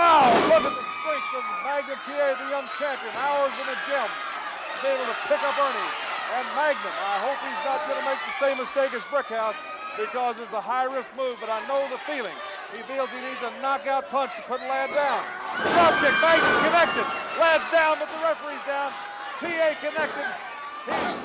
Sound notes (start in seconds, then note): 16.0 audience cheering